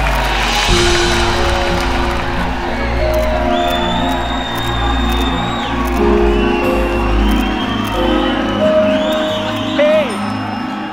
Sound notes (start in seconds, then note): 3.4 Camera Clicking